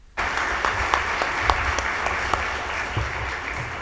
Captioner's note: audience applauds